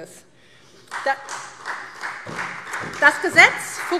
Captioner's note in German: Beifall SPD